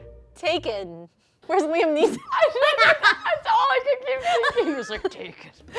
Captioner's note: laughing